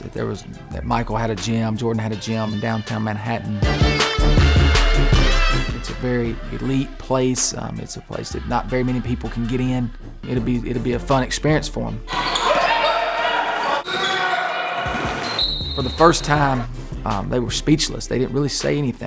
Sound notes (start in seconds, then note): 12.0 coach and team yelling